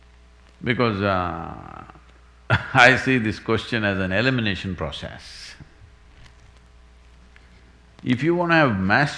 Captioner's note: laughs